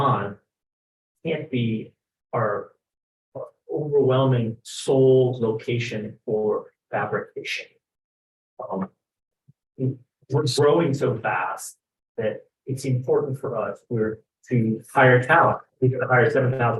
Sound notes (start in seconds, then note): 9.1 speaks faintly